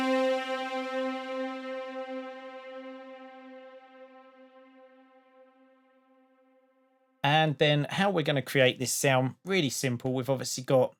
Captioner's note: spacey sound